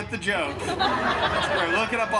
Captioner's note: guests laughing